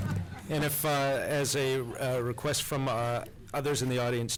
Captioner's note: laughter